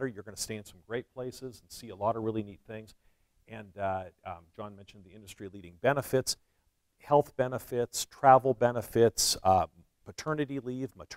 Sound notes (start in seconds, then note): none